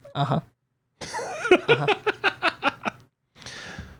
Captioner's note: laughs